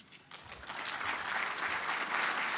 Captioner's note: audience applauding